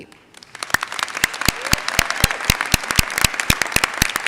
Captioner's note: audience applauds